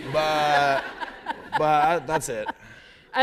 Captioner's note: laughter